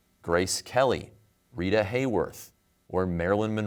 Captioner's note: none